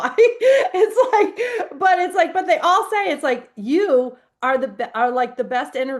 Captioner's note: laughs